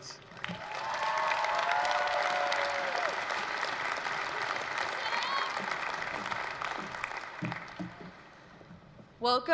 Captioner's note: applause, cheering